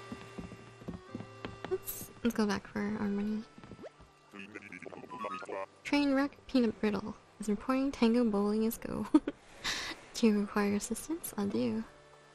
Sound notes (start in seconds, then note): 9.0 laugh